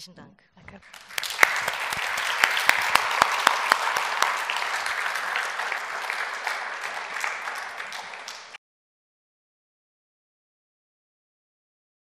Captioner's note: Applaus